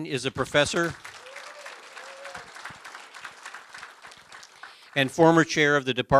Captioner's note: applause